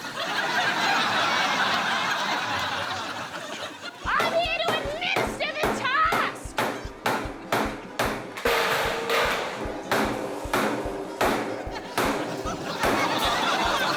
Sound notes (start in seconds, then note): 0.0 laughter; 7.0 table clangs; 8.3 door clanks; 10.1 table clangs; 13.7 laughter